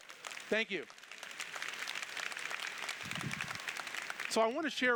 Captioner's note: applause